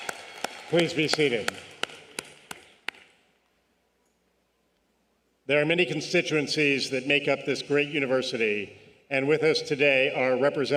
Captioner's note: cheers and applause